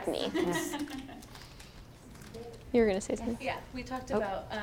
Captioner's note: laugh